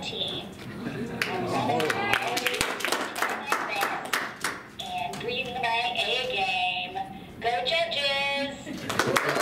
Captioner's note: applause; through automated speaker, indistinct at first; more applause